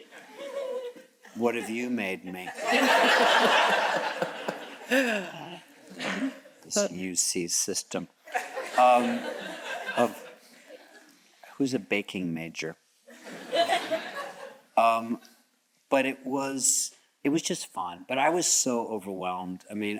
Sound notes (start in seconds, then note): 0.3 chuckles; 2.3 all chuckles; 8.4 audience chuckles; 13.2 audience chuckles